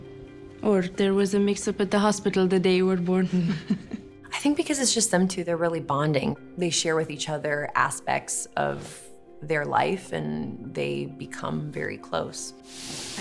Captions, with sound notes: Or there was a mix-up at the hospital the day you were born. (Aaliyah chuckles) (Cruz chuckles) - I think because it's just them two, they're really bonding. They share with each other aspects of their life and they become very close.